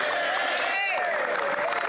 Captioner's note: applause